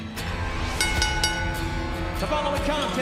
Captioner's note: bell ringing